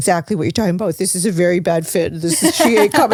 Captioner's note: laughs